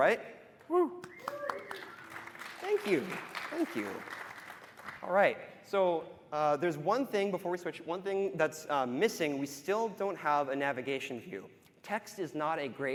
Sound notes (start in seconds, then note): 4.6 applause